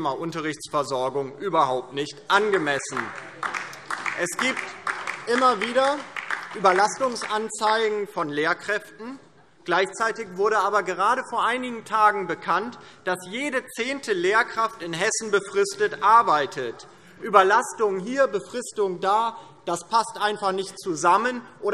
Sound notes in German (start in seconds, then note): 2.4 Beifall DIE LINKE